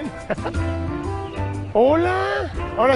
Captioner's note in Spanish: Ríe